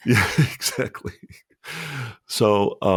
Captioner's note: laughs